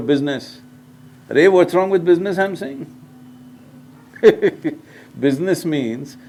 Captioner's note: laughs